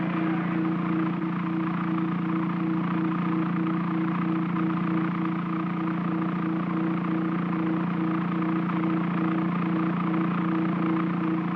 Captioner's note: aircraft hums; crowd clamors; aircraft hums